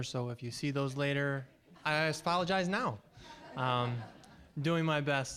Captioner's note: audience laughing